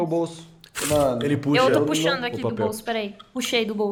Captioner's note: paper sound